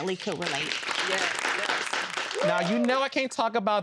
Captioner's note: audience claps and cheers